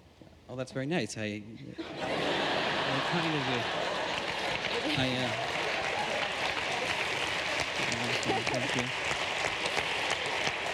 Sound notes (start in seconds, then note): 5.4 laughter